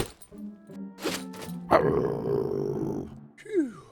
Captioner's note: growl